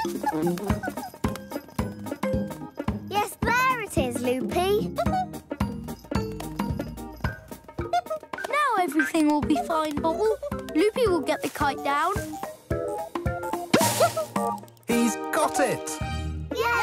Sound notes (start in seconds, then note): 5.1 hooting